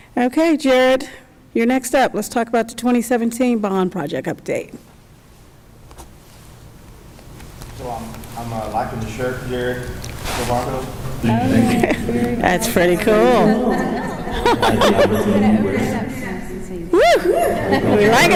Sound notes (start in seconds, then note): 13.3 chuckles